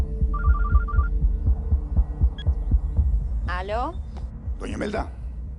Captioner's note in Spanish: Suena el celular